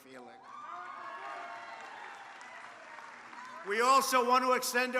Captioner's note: applause